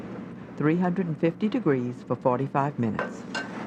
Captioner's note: voiceover